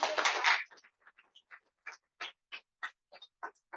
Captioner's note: applause